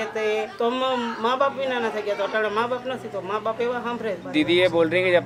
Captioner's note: speaking local language